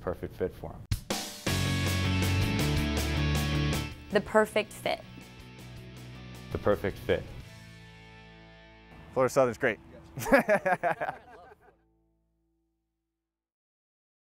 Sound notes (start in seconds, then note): 2.0 light rock music; 10.1 laughter